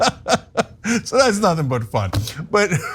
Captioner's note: laugh